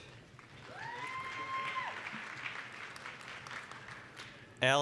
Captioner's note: applause, cheering